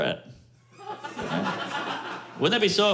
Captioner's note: laughter